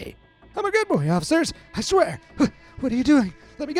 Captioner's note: in a frantic voice